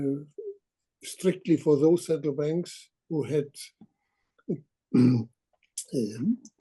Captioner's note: cough